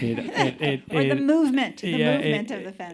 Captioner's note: chuckling